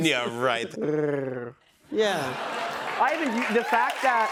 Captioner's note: purrs